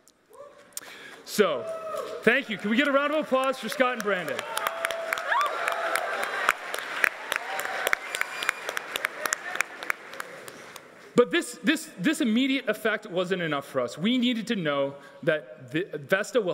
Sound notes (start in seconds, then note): 4.0 everyone applauding